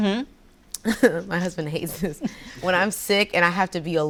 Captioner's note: laughs